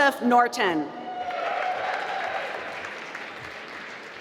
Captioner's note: applause